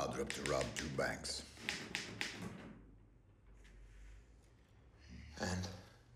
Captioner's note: typewriter clacks